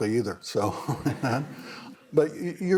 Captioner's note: chuckles